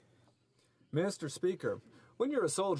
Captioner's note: speaking French